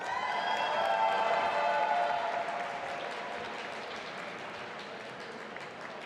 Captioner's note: audience applauding and cheering